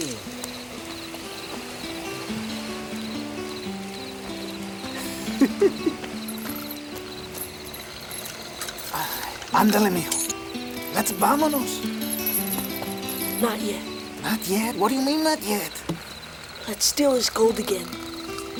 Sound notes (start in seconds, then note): 0.2 gentle music; 4.8 Crecencio giggles; 9.8 speaks Spanish